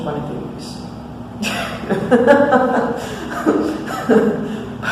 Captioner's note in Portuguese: risos